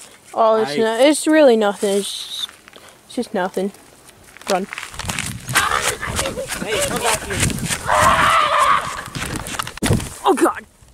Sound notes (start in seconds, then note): 5.5 pterodactyl Sounds; 9.8 thwump